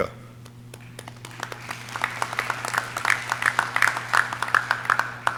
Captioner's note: audience clapping